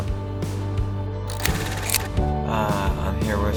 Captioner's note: film reeling